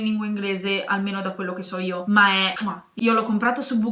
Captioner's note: kissing sound